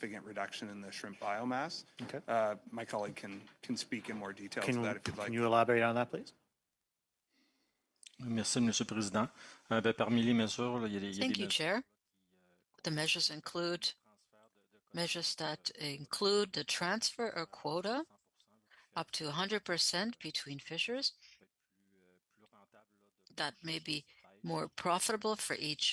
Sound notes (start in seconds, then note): 17.9 speaking French